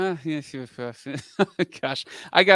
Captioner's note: laughs